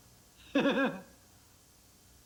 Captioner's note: laughs